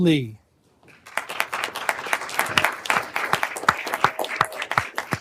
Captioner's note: everyone applauding